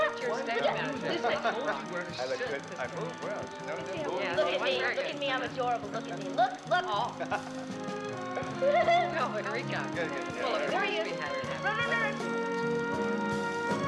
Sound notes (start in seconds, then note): 9.4 giggling, Chattering